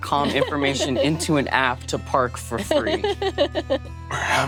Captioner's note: laughing